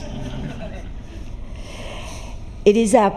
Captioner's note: laughter